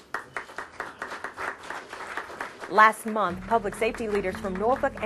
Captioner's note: applause